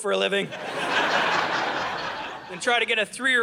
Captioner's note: audience laughing